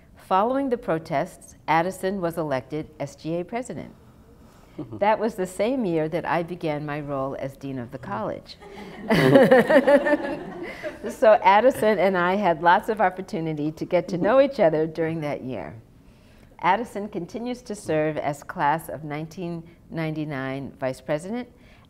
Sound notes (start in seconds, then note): 8.6 laughter